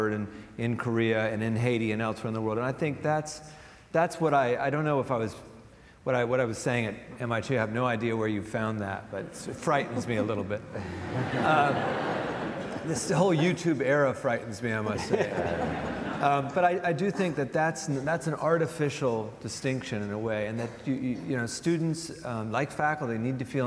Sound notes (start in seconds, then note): 14.8 audience laughs